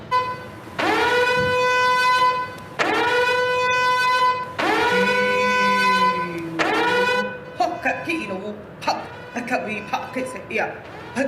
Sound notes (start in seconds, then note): 0.1 siren wailing; 7.6 non-english speech